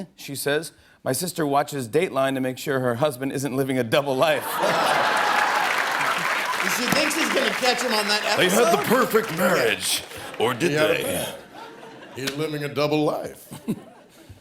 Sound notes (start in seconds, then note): 4.4 laughter